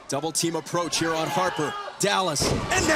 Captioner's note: crowd chatter